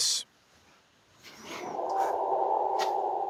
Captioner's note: eerie sound